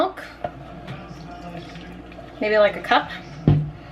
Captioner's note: pouring milk